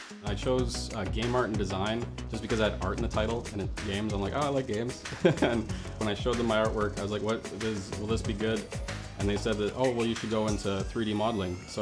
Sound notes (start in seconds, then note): 5.1 chuckles